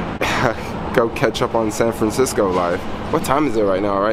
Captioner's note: laughs